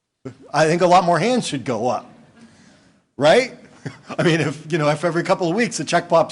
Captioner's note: laughing